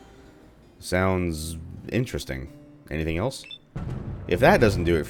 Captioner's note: thunder